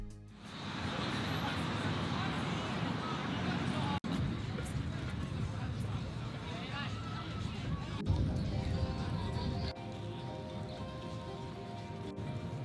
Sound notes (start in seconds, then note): 1.5 street noise